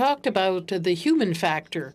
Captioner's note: speaking French